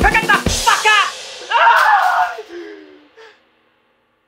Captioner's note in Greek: ουρλιαζει